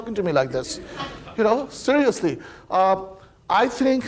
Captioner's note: audience laughing